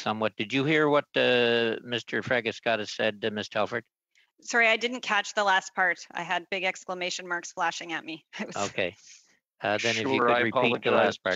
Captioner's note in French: voix de l'interprète